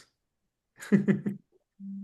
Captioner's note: laughs